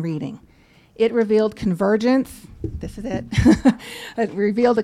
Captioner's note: laughs